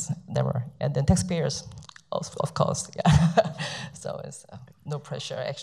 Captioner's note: laughs